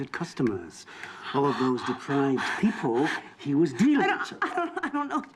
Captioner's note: panting